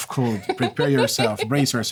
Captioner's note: laughter